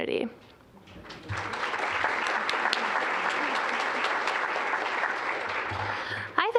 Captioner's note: applause